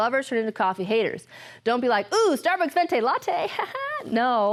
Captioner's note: laughs